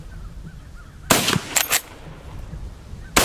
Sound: gun fires

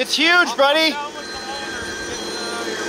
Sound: phone ringing

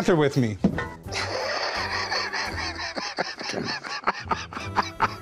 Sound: laughter

